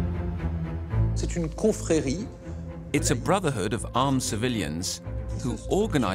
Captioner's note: speaking French